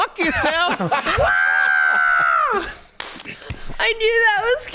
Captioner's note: screaming